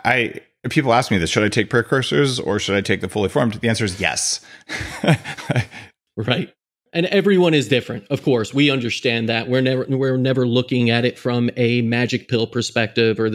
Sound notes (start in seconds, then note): 4.5 laughs